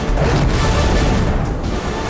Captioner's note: fire roars; dramatic music